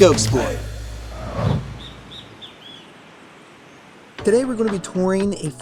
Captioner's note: waves lapping; birds chirping